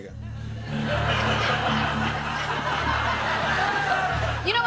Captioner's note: laughter